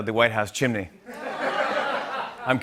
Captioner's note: laughter